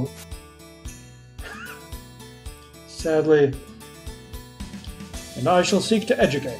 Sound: laughs softly

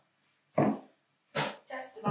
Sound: shoes clacking

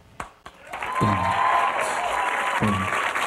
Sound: audience applauds; upbeat theme music

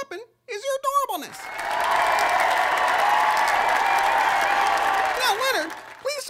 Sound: cheer/applause

